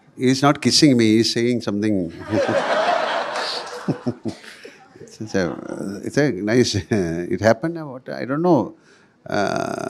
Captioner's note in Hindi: हँसी